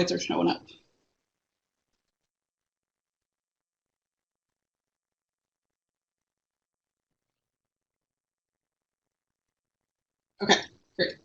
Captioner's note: no sound